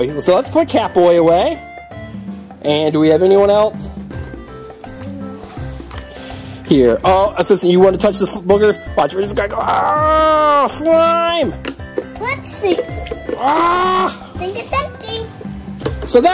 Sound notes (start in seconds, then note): 9.8 scream; 13.4 scream